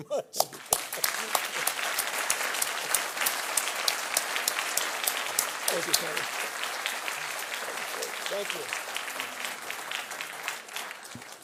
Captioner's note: applause